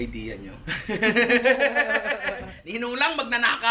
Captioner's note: laughter